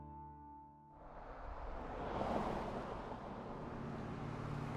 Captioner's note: car zooming